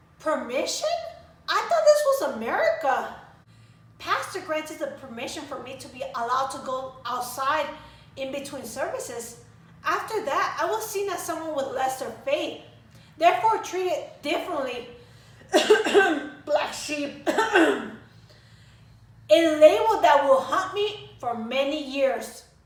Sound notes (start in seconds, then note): 15.5 cough* *cough* Black Sheep *cough